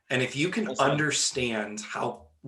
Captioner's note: none